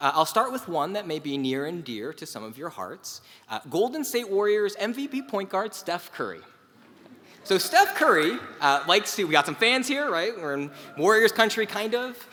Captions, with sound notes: I'll start with one that may be near and dear to some of your hearts. Golden State Warriors MVP Point Guard Steph Curry. [LAUGH] >> So Steph Curry like to, we've got some fans here right, we're in Warriors country kind of.